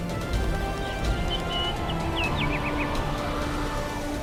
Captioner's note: birds chirping